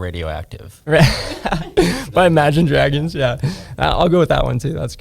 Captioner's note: laughs